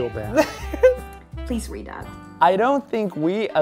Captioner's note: laughs